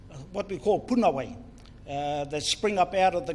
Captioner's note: foreign Language